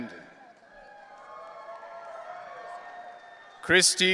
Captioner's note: audience cheering